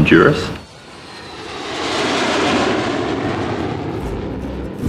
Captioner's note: plane engine running